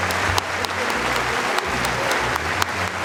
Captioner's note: applause